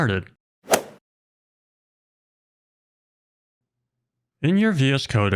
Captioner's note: golf swing sound effect